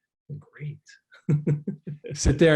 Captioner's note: laughs